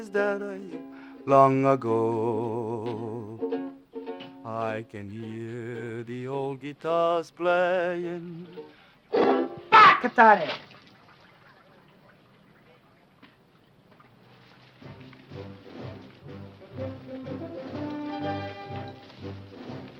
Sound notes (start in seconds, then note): 9.1 ukulele strums; 9.2 speaking foreign language; 14.8 determined music